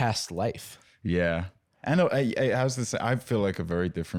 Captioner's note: stammering